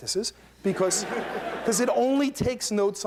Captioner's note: laughter